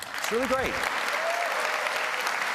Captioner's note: applause